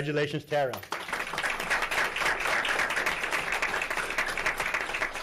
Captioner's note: audience clapping